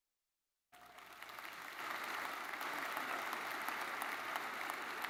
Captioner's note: audience applauds